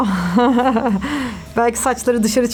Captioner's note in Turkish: gülüyor